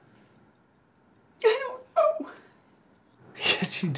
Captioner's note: crying